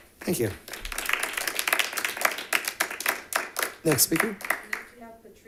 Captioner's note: members clapping